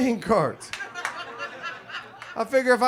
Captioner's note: audience laughs